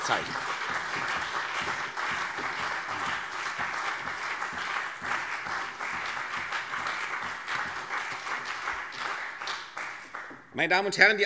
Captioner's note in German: Beifall CDU und BÜNDNIS 90/DIE GRÜNEN